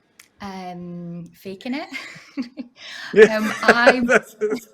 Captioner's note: laughs